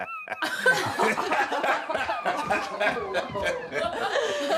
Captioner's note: everyone laughing